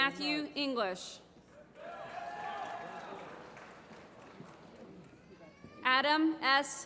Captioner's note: applause